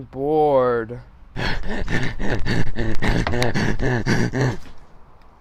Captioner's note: heavy, labored breathing